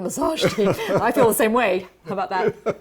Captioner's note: laughter